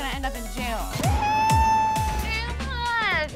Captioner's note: yells